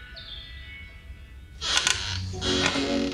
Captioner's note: bird calls; rocking chair creaking